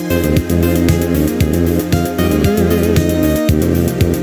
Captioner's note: vrooom!